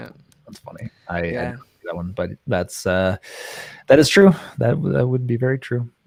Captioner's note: murmurs